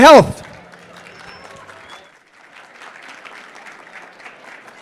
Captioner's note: applause